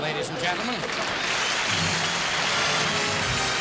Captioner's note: applause